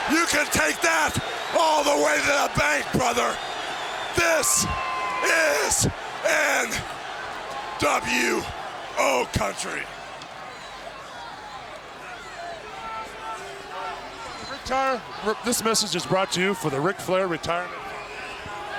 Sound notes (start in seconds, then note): 4.9 crowd cheering; 8.0 crowd cheering; 12.8 giant faintly speaking